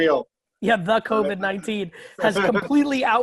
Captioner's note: laughing